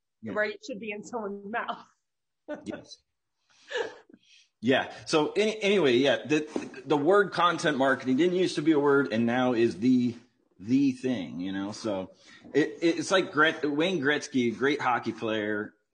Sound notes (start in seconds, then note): 3.7 laughs